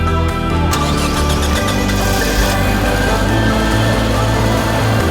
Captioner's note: engine starting